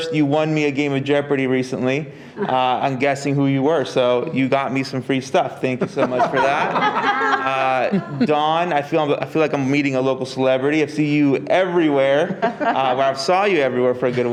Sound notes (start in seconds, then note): 5.6 board members laughing